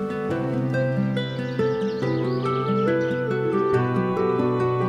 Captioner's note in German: Vogelgezwitscher